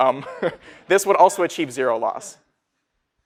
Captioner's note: laughing